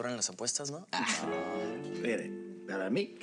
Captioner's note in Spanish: Risas